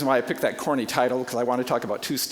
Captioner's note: none